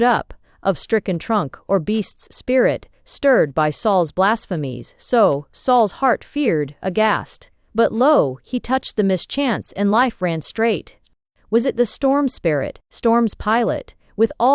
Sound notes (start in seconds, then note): 0.7 _She speaks aloud. _